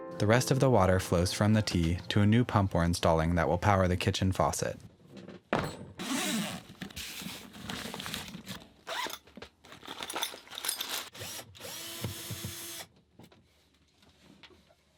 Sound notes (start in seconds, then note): 6.0 zipper unzips; 11.0 whirring